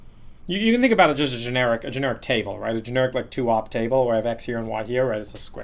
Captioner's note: fuzzing